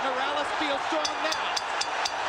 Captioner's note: bell dings